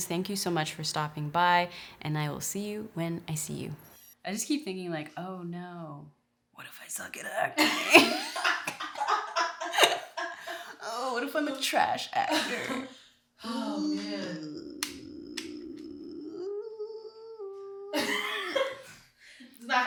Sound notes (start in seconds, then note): 7.6 laughing; 13.6 laughs